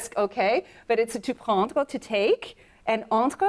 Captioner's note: speaks French